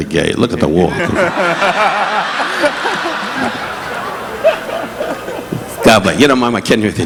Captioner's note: audience laughing; laughing